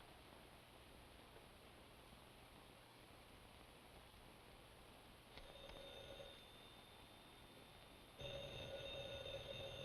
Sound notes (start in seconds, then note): 6.0 phone rings